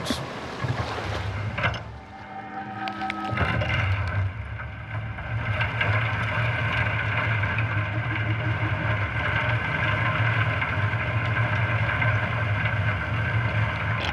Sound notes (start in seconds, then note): 0.3 water splashing; 2.6 eerie music; 6.1 oysters clattering